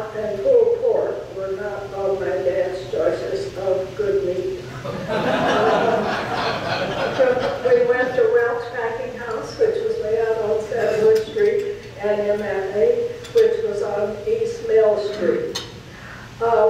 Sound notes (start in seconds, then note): 4.8 audience laughing; 10.8 silverware clinking drowns out